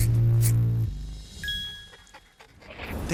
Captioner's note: scissors snipping; chime dings